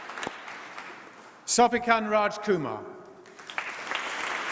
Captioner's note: applause